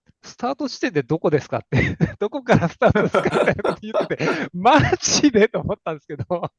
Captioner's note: laughs